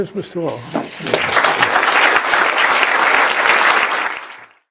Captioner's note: applause